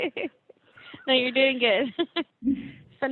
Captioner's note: laughing